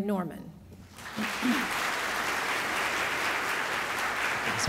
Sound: audience applauds

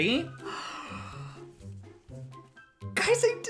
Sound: gasp

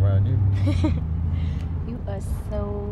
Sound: laughs

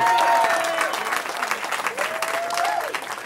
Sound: cheering

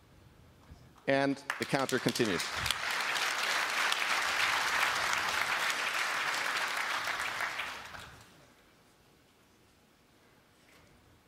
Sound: applause

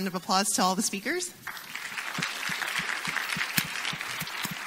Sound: audience applauds

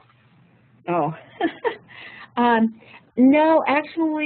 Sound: laughs

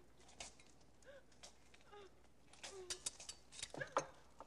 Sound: woman crying

